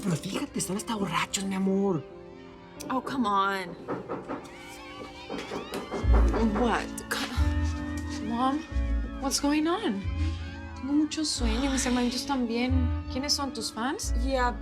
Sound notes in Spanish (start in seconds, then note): 3.6 Toques en la puerta; 6.0 Algarabía de los fans